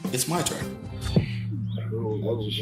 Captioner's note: birds chirping